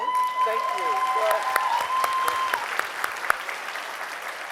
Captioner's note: audience cheering